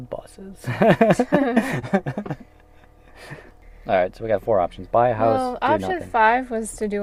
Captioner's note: laughs